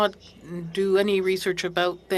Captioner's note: speaking French